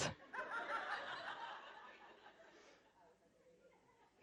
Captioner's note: audience laughing